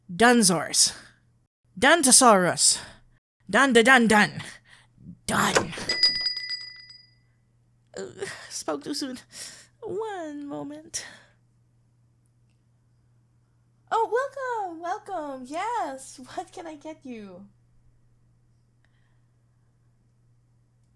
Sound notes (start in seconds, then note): 5.3 door opens, door chime goes; 8.5 whispered, apologetic